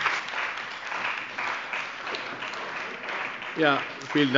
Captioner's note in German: Heiterkeit und Beifall bei der CDU und dem BÜNDNIS 90/ DIE GRÜNEN